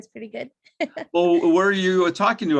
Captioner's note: laughs